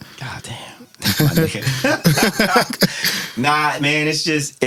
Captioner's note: laughing